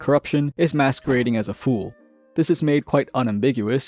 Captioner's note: flap